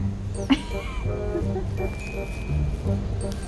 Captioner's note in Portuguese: risos